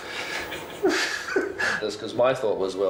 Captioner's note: chuckles